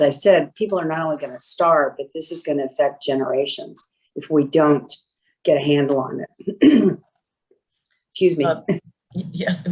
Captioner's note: cough